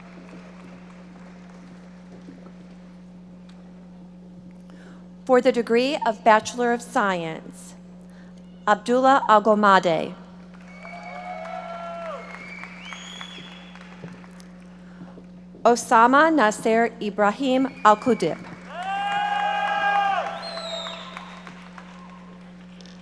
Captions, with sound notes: (audience applauding) For the degree of Bachelor of Science. Abdullah Alghamdi. (audience applauding) Osama Nasser Ibrahim AlQadhib. (audience members shouting)